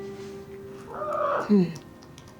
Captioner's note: kitty squawks